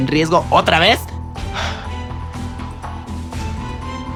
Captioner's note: sighs in jarocha